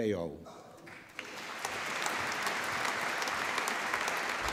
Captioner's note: applause